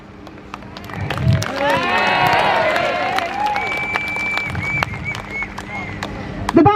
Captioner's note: crowd Cheers